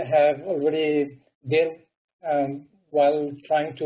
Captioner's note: murmurs